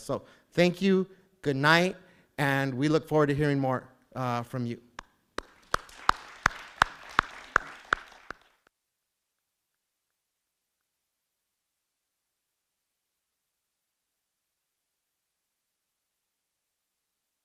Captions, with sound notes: So thank you, good night, and we look forward to hearing more from you. (audience clapping)